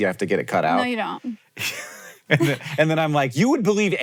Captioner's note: laughs